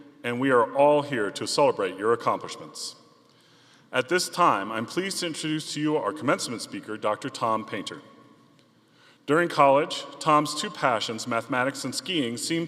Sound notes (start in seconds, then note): none